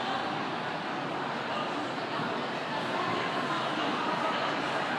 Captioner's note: people chattering